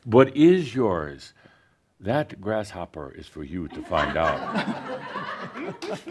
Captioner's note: laughter